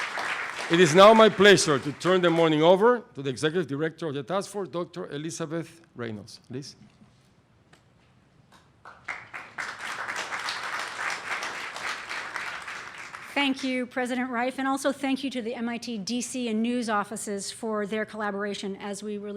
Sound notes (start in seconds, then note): 8.8 applause